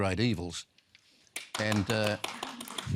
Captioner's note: scattered applause